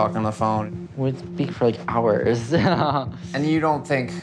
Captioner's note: laughs